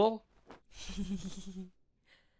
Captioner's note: amanda laughs evilly